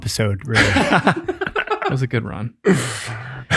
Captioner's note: group laughs